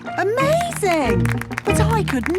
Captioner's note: clapping